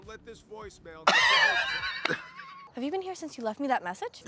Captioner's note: drag queens laugh